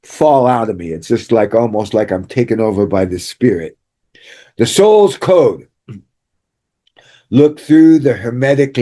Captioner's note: clears throat